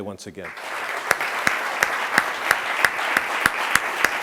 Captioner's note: applauding